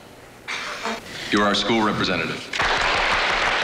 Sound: audience applauds

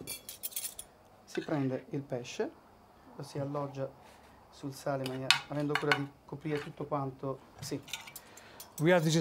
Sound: speaking Italian

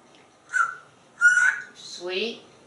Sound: whistling

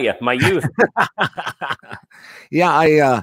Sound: laughing

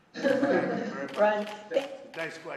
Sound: laughter

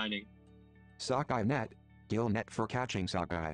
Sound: non-english speech

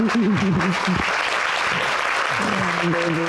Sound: laughs

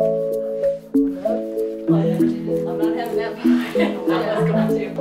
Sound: mumbled chattering

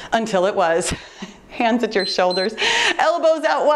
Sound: timer beeps

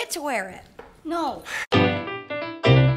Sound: sighing in the background

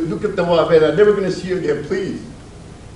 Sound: speaks Spanish

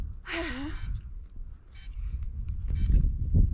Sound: sighs

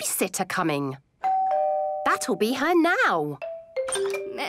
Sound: doorbell rings

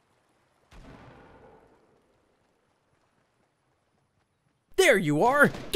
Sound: explosion in the distance

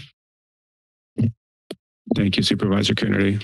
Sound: mic thumps

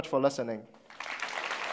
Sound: applause

